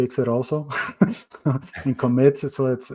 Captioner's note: chuckling